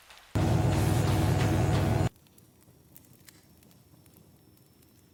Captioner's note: electric buzzing